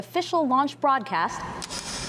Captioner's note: gloves click into place; engines ignite